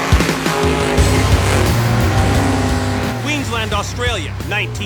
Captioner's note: engines revving